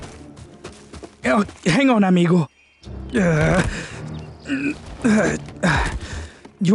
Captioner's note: grunting